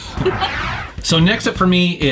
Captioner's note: whoosh